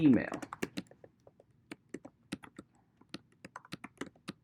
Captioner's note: keyboard clicking